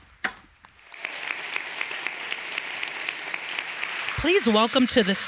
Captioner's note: everyone applauding